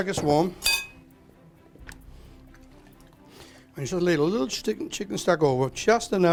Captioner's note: dishes clatter